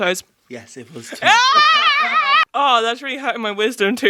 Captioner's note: yells